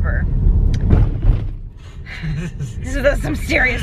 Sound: car thumps

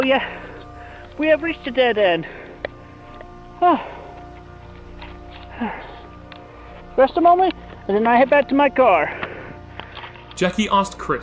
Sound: panting

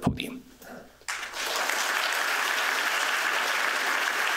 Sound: applause

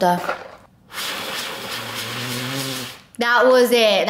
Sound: blowing

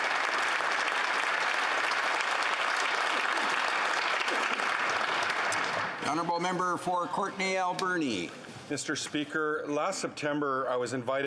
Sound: applause

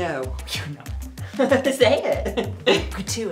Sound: sneering

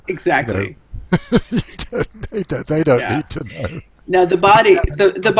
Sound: laughs

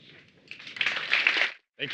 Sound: applause

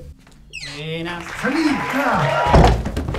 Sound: applausse

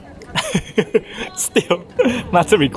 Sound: chuckles

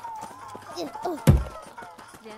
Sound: thud

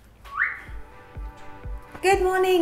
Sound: blows raspberries; lighthearted music; person whistles

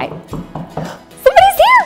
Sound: knocks

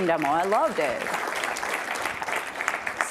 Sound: applause

